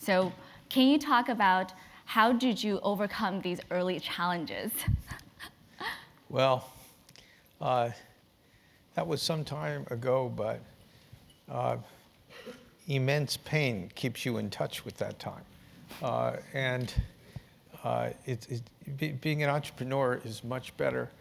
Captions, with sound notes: So can you talk about how did you overcome these early challenges? [LAUGH]. >> Well that was some time ago but immense pain keeps you in touch with that time. And it's, being an entrepreneur is much better